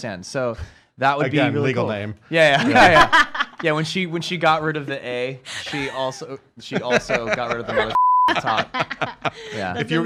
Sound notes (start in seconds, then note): 2.6 laughs; 6.6 laughs